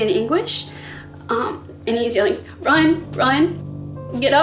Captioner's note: shaky voice